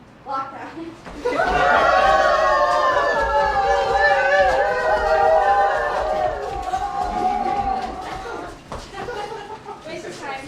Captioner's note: silly screaming